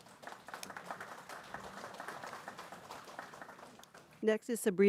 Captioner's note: people clapping